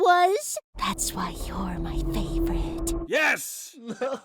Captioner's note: eerie whisper